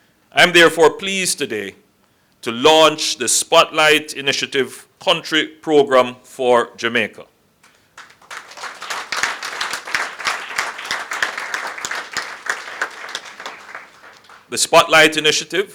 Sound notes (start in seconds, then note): 7.6 applause